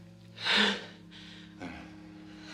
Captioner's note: sighs